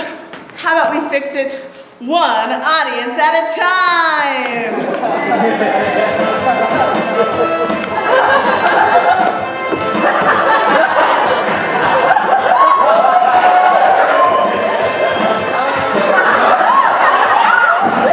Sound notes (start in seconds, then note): 9.6 laughter; 10.4 cheering